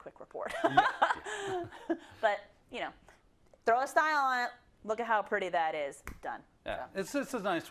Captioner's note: laugh